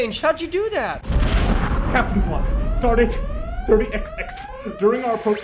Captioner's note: sirens